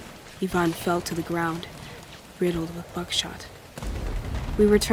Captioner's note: rapid gunfire